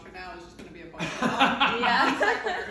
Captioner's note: man laughing